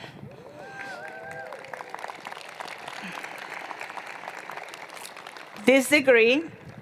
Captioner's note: applause